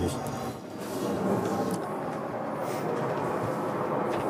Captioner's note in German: Rauschen im Hintergrund